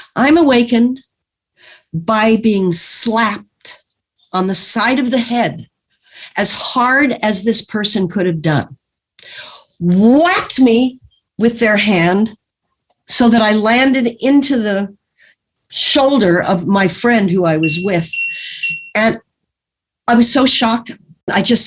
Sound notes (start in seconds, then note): none